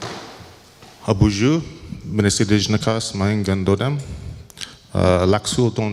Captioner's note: speaking in foreign language